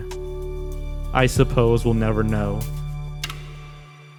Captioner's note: click